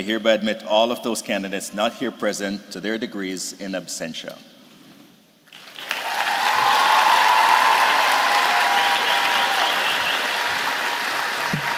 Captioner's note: loud cheers and applause